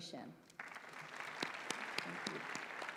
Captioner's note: applause